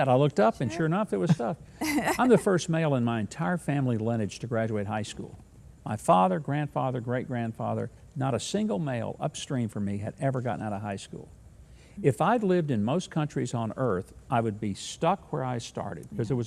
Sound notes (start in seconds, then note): 1.8 laughing